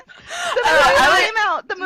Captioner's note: laughter